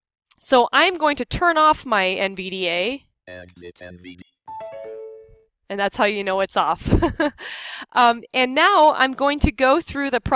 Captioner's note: chimes